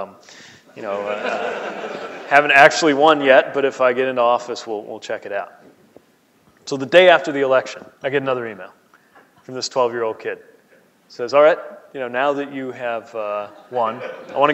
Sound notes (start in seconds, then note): 0.9 laughing